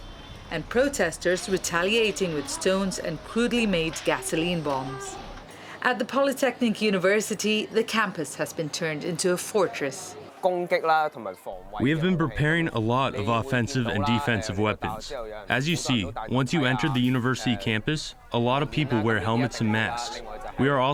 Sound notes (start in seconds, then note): 10.7 through translator